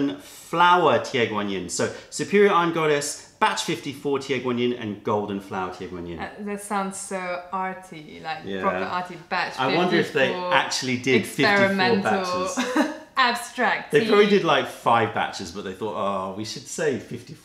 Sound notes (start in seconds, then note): 12.2 laughter